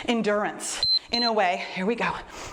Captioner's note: timer beeps